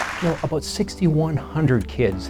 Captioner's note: cheers and applause